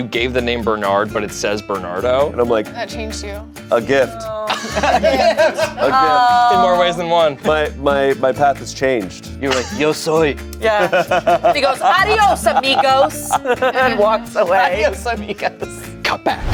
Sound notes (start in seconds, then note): 4.3 group laughs